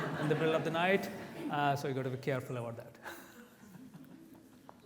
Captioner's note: laughs